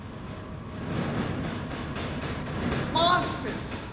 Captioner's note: banging